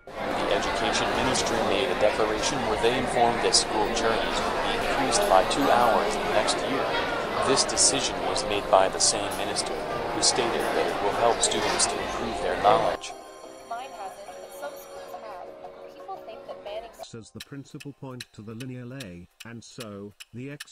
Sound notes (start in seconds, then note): 17.0 Proffesor continues endlessly talking